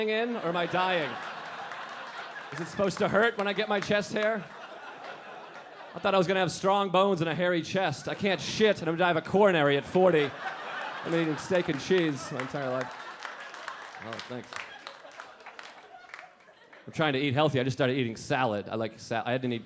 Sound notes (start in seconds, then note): 1.1 audience laughing; 10.7 audience laughing and clapping